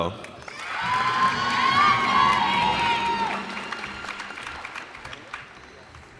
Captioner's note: cheers and applause